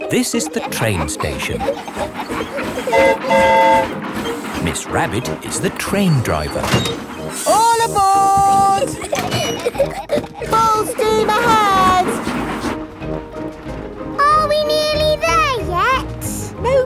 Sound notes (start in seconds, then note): 2.9 train whistle toots; 8.4 giggling